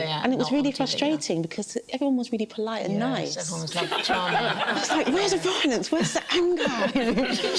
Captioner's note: laughter